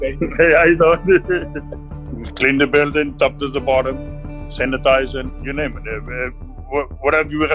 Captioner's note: laugh